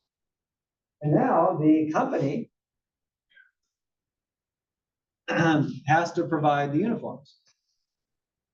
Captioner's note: cough